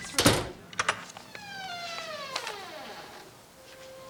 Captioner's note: door opening